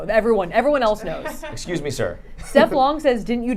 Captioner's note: laughing